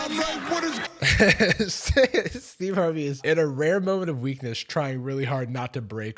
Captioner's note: laughs; crowd clapping and laughing